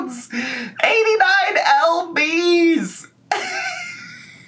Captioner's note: laughs